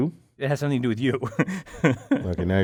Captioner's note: laugh